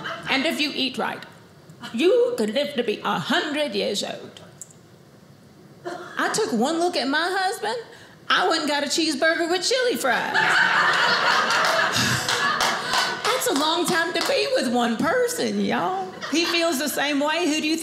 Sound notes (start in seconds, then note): 10.3 audience laughing